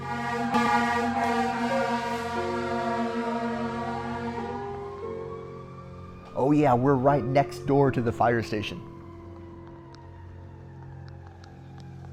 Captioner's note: sirens